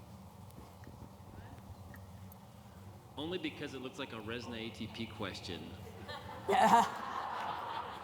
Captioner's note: laughter